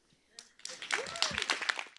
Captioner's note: applause; cheering